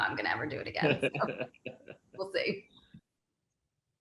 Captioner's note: laughs